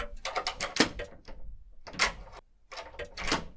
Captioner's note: lock frantically locking and unlocking; door knob jittering